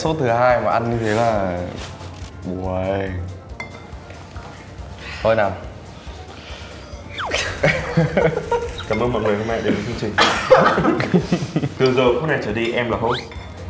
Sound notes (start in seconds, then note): 7.3 laughing in hesitation